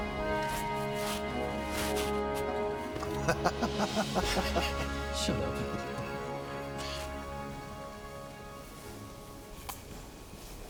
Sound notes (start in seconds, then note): 3.0 Heck chuckling